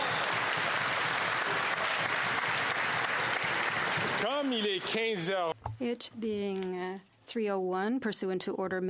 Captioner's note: cheering and Applause